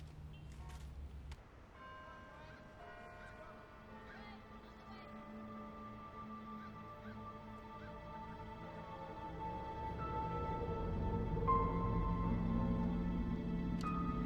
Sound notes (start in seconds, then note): 1.8 church bell dinging; 5.3 birds chirping; 11.0 suspenseful music